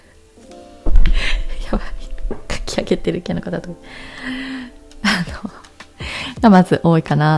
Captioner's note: laughs